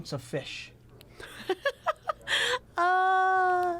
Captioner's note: laughing